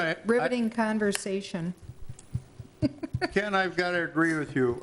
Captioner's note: laughs